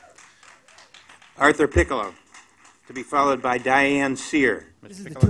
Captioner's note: applause